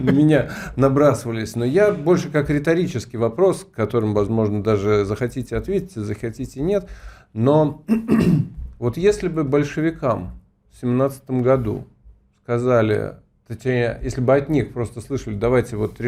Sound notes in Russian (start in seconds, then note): 7.8 откашливается